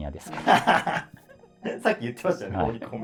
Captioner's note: laughing